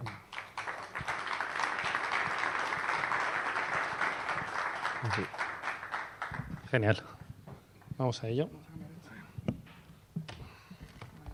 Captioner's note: applause